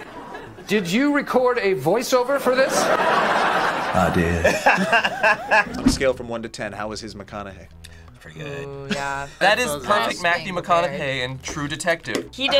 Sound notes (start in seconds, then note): 2.4 audience laughs; 3.7 laughs